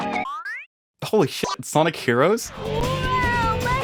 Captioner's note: meow